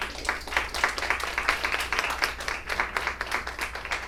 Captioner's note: applause